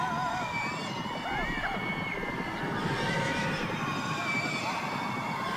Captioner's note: whooping and rapid hoof beats